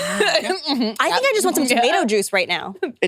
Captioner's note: laughs